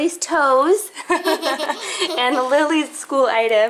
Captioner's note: both laughing